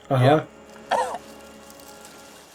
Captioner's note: coughs